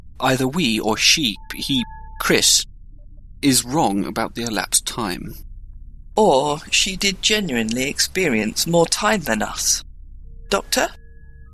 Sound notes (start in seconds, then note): none